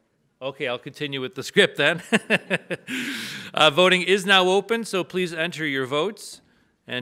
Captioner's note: laughs